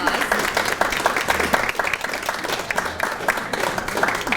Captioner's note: applause